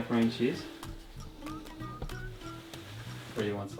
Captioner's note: soft mechanical grinding